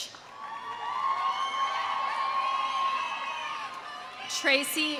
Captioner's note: audience cheering; audience applauding